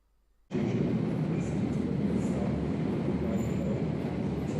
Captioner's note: train engine rumbling